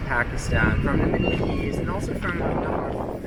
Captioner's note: wind blows